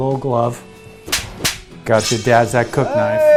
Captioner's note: slaps